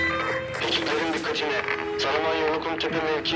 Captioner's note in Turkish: Telsiz erkek ses